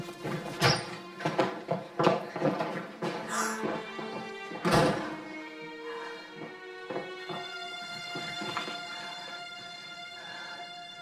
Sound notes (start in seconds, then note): 3.3 gasps